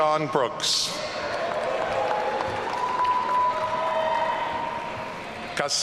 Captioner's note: audience cheering